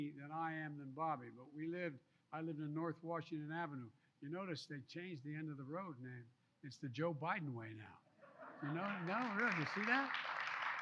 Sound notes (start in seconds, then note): 8.2 laughter; 10.6 applause